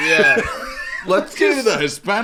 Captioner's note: laughing